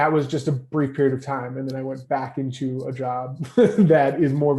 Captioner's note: laughs